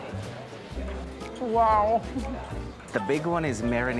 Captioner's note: laughs